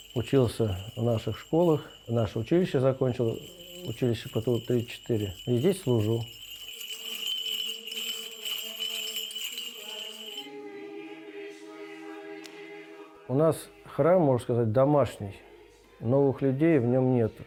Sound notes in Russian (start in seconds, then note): 6.8 звучит колокольный звон